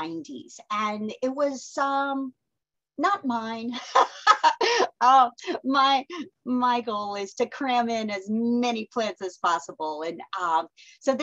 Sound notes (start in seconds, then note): 3.8 laughs